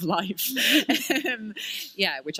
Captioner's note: chuckle